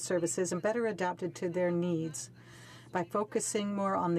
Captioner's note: speaking in french